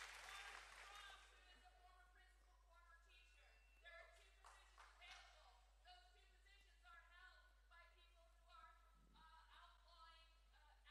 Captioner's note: cheering